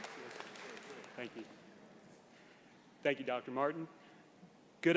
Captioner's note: applause